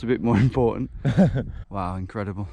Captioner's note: laughing